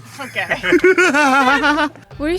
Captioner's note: laugh